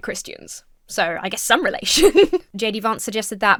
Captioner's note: laughs